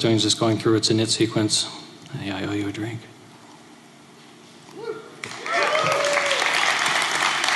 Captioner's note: cheers and applause